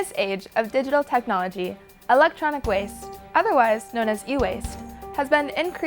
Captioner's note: none